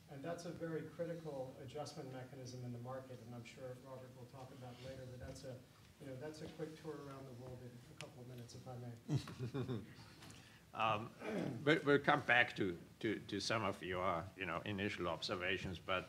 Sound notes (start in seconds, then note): 9.0 chuckles